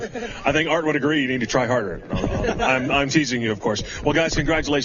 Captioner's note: laughter